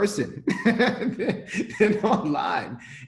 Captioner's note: laughing